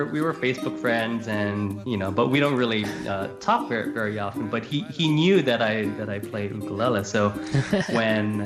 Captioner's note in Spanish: Risas